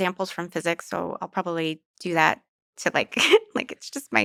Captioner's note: laughs